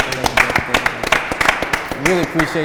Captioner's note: all clapping